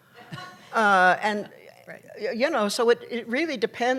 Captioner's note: laughter